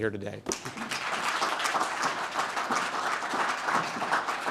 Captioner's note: audience claps